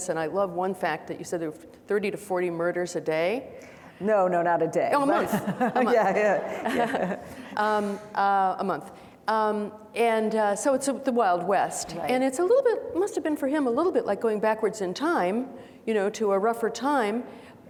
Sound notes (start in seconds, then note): 5.0 laughs; 5.0 audience laughing